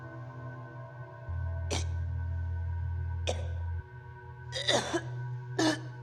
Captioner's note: Lindsey gagging and coughing